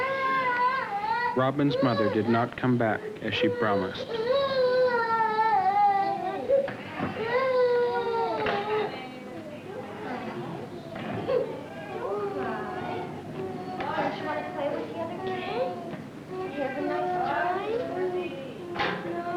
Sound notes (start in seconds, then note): 0.0 crying; 3.5 crying